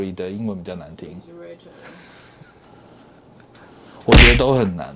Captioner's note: laughs